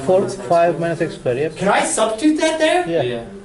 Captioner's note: class chattering